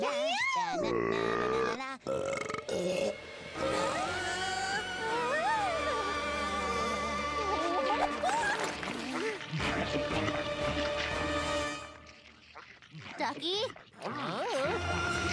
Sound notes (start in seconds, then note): 0.0 excited singing; 0.2 belching; 3.9 whimpering